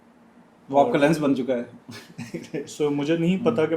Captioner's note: laughter